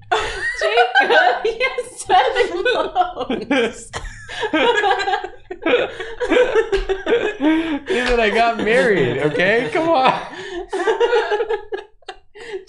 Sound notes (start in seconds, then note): 0.1 laughs; 4.6 everyone laughs; 10.4 laughs